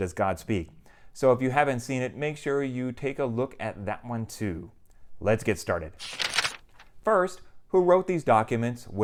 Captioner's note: page turning